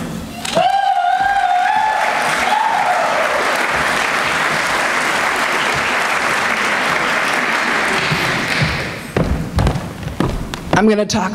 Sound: applause

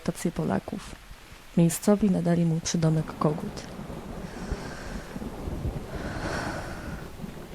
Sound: sigh

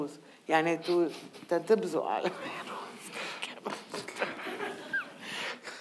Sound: speaking in foreign language

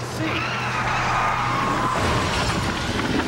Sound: tires screech

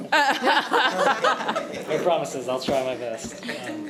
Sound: trustees laughing

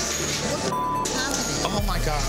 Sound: beep

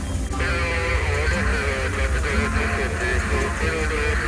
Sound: radio chatter

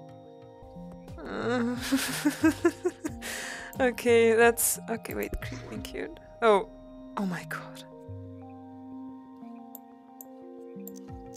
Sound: giggles

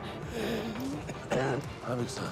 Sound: hacking cough

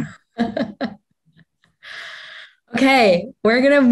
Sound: chuckling

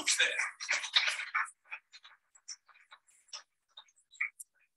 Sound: audience clapping

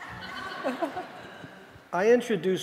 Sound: audience laughing

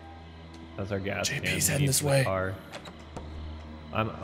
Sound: whispering

